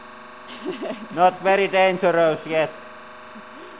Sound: laughs

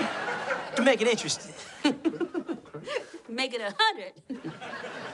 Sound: laughs

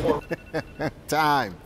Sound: laughing

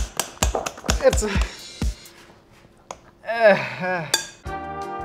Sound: groans

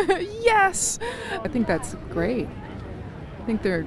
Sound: laughter

